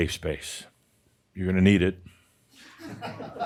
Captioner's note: a few chuckles